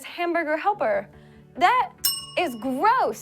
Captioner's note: rings bells